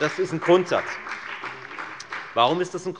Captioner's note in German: Beifall bei der FDP und der LINKEN